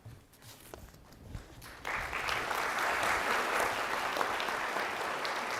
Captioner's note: audience applauding